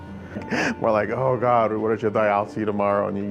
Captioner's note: laughs